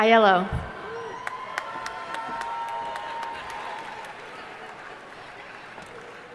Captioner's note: audience cheering and applauding